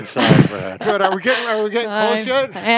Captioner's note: laughs